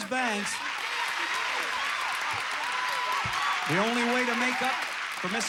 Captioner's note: audience applauding